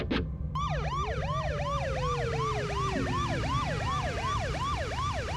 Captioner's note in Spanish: Sirena de patrullero